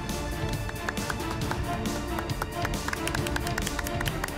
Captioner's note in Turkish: Alkış